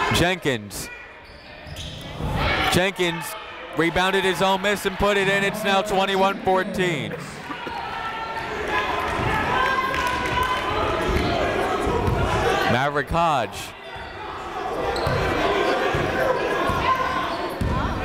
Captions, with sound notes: Jenkins. Jenkins rebounded his own miss and put it in. It's not 21 14. (chatter) Maverick Hodge.